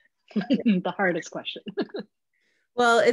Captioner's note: laughs